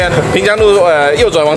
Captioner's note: stuck on words